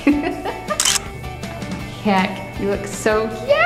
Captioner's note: laughs; camera shutter clicks